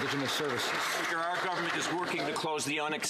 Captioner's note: some Applause